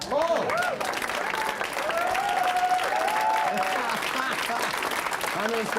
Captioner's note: applause